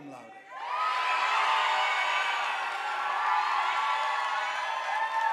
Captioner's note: audience applauding